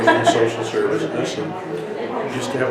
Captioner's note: interviewer laughs